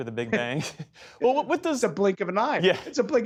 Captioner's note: laughter